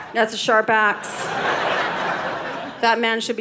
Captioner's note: audience laughing